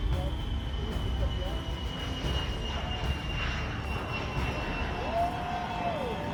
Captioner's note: plane engines screech; spectators cheer